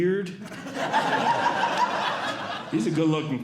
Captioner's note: audience Laughing